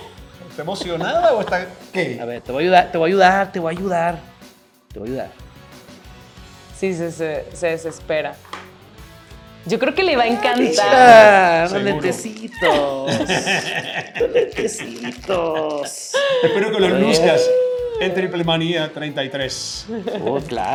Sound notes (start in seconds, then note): 10.3 laugh